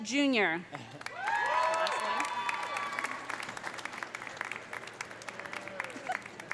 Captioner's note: audience applauding; audience cheering